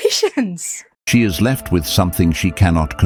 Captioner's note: AI Voice